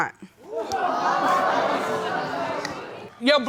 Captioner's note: audience exclaiming